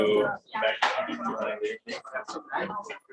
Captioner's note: indistinct conversation